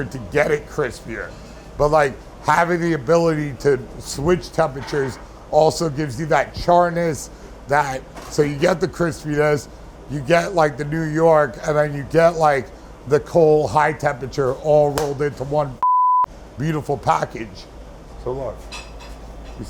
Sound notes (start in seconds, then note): 15.8 beeping